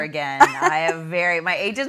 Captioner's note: laughing